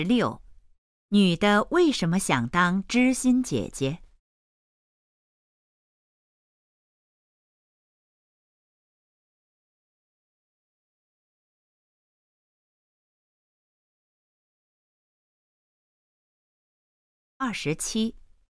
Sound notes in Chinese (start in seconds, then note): 4.2 空白_音频